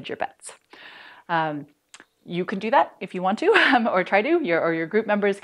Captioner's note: laughter